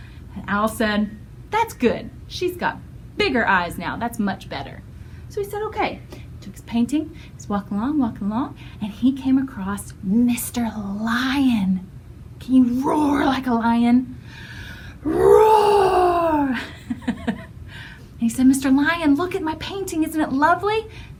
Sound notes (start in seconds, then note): 16.6 laughter